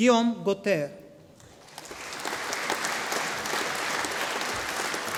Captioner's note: audience applauding